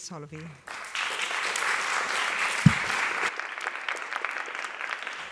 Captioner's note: applause